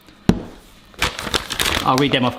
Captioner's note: paper rustles